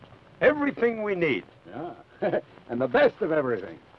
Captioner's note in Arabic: يضحك